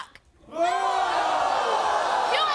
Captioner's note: audience booing